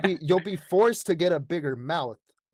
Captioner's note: laughter